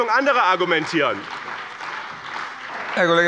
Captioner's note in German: Beifall bei dem BÜNDNIS 90/DIE GRÜNEN und der CDU